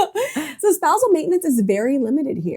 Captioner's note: laughs